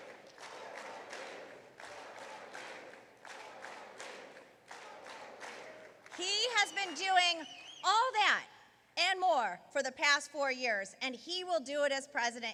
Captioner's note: applause